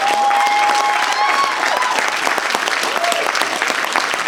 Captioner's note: applause